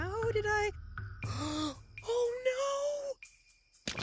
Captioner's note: gasping